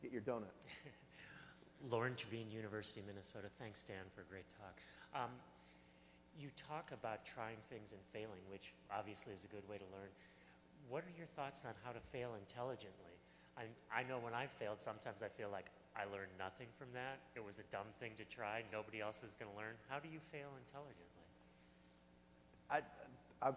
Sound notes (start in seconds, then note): 2.2 voiceover